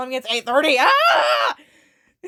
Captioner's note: more panicked screaming